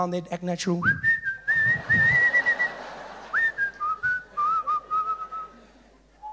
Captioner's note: whistling